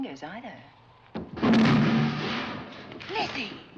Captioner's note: banging